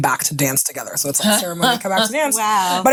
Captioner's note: laughing